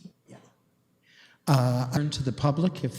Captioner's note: audio drop